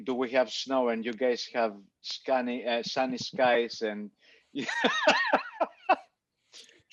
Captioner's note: laughs